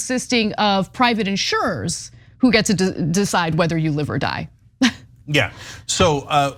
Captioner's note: laugh